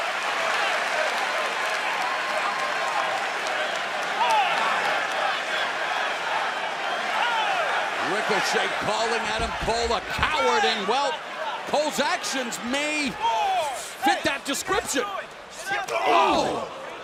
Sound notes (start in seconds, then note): 0.1 cheers and applause; 6.9 fans chanting